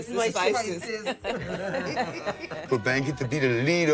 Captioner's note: laughter